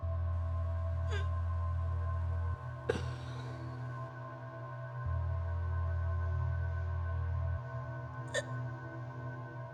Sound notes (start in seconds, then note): 1.2 Lindsey gagging